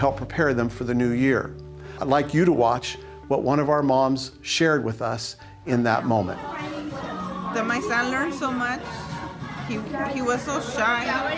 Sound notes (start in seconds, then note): 7.6 mom speaking